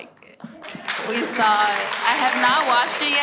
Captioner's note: everyone cheers and applauds